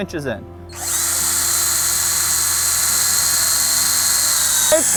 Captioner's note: drill whirling